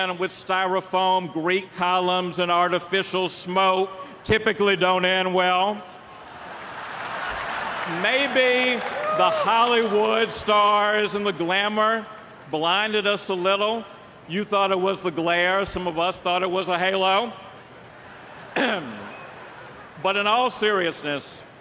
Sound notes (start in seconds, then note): 6.1 applause; 17.9 laughter